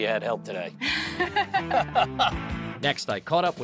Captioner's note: both laughing